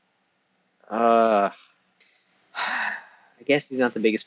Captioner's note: sigh